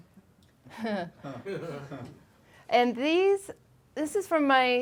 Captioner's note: laughing